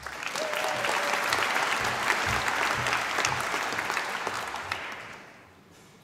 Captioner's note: applause